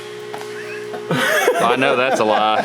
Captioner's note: laughs loudly